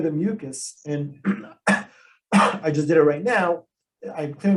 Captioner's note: coughs